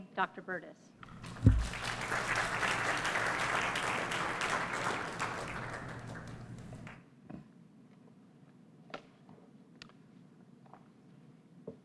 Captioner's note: applause